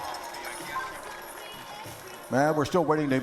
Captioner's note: cheering